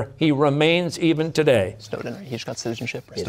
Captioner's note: whispering